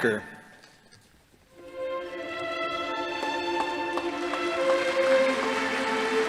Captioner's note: soft orchestral music; audience applauding